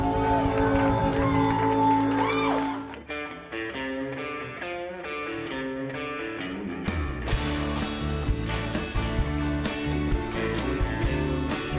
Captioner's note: cheers and applause